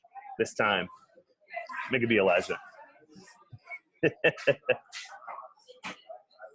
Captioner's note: light laughter